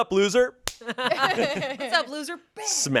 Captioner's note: everyone laughs